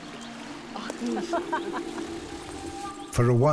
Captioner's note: speaking Algonquian; giggling